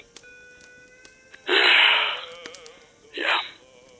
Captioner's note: sigh